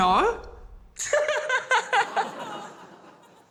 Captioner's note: laughs